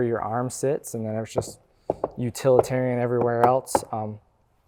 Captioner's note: bangs door